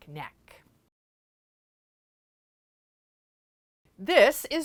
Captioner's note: no Sound Present